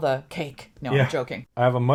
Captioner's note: laughs